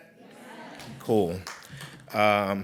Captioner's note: crowd